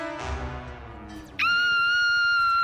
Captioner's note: screaming